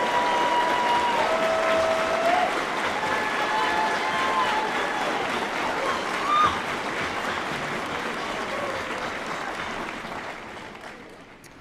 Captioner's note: cheers & applause